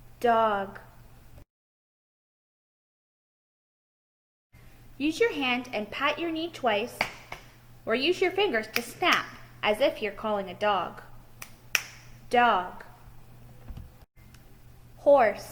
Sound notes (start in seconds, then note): 8.7 snaps fingers on right hand